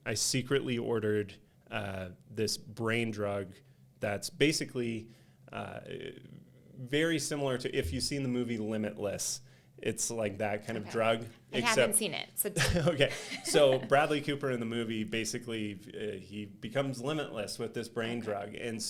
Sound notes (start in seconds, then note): 12.4 laughing